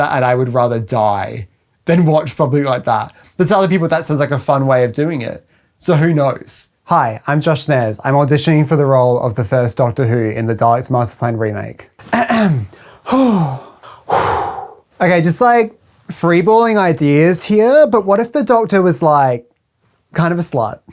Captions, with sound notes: and I would rather die than watch something like that. But to other people that sounds like a fun way of doing it. So who knows? Hi, I'm Josh Snares, I'm auditioning for the role of the First Doctor Who in The Daleks' Master Plan remake *clears throat* *breathes in* OK, just like free balling ideas here. But what if The Doctor was like, kind of a slut?